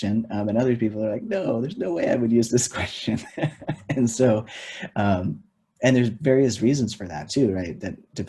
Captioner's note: laughs